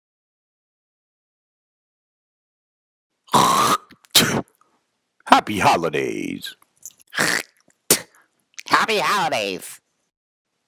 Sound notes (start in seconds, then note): 3.3 Boogy spitting; 7.8 Box spitting